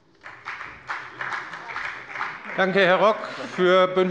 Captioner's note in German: Beifall bei der FDP